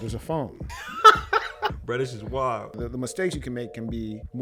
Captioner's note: laughter